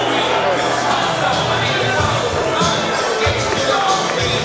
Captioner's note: bell rings